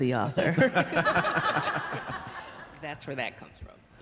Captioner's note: laughter